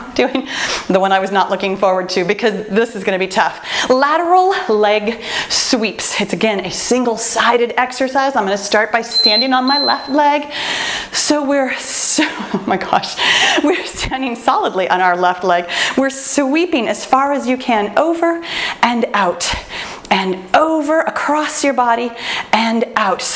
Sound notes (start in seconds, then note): 9.1 timer beeps; 11.7 laughs